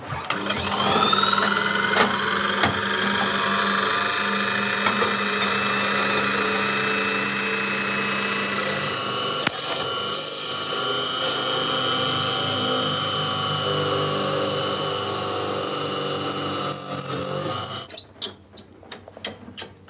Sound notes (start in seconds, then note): 0.8 high whirring